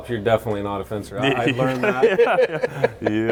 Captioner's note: everyone laughing